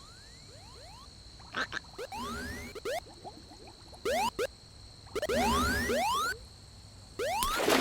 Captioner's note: mystical whirring; cicadas humming; sporadic beeping; water splashing